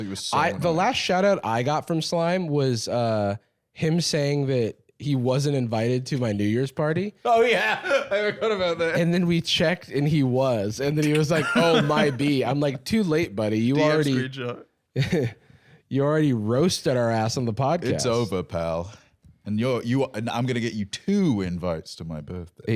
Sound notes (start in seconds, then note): 7.3 laughing